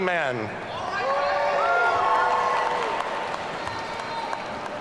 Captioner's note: audience cheering